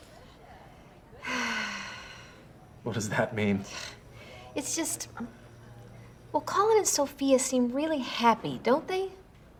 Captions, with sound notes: WHICH IS EXACTLY WHY WE NEED TO GET ON TOP OF THIS. [SIGHS] WHAT DOES THAT MEAN? IT'S JUST... WELL, COLLIN AND SOPHIA SEEM REALLY HAPPY, DON'T THEY?